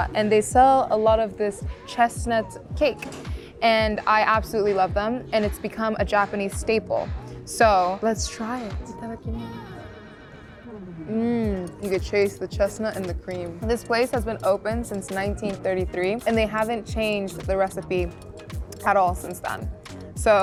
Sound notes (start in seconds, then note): 8.6 speaking Japanese; 9.7 gentle upbeat music